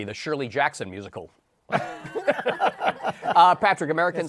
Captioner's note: laughter